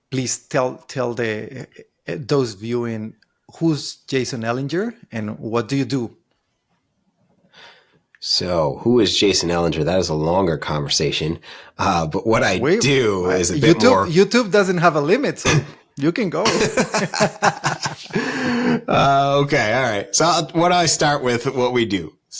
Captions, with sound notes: please tell those viewing who's Jason Elinger and what do you do? - So who is Jason Elinger? That is a longer conversation. But what I do is a bit more-- - YouTube doesn't have a limit. You can go. (both laughing) - Okay, all right. What do I start with what we do?